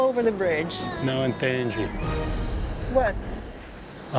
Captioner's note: in Portuguese